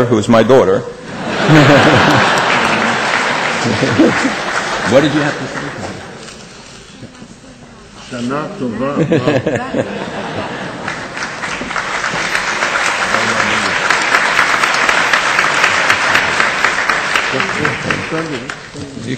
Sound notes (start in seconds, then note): 1.1 laughter; 1.1 audience applause; 9.8 audience applause